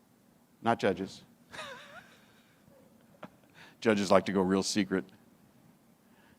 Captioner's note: chuckles